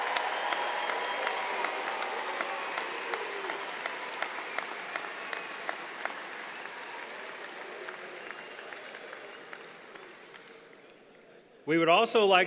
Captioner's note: applause